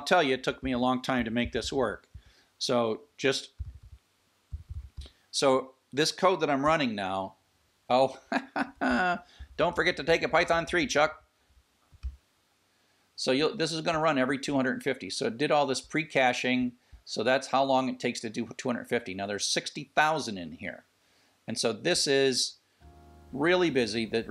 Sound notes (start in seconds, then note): 8.1 laughs